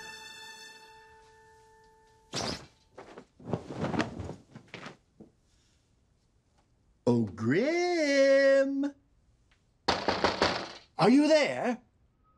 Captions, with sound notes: (SINGSONG) Oh, Grim. (KNOCKS) Are you there?